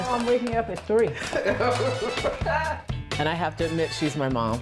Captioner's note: laughs